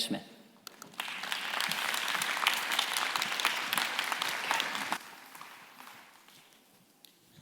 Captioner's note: applause